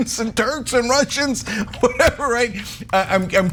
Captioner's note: laugh